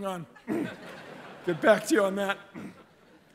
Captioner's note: laughter